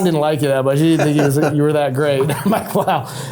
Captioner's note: laughing